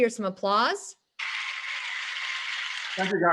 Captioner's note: all applauding